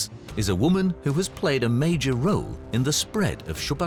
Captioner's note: none